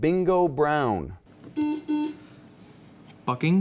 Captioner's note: buzzing